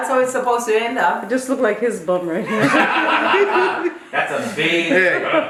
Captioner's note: laughter